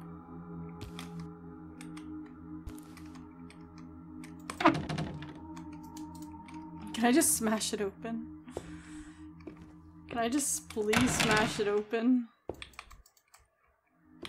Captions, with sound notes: [Window Rattles] Can I just smash it open? Can I just please smash it open?